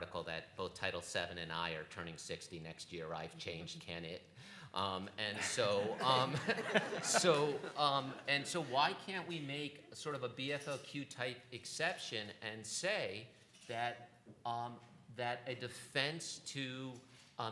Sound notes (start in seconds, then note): 5.4 laughter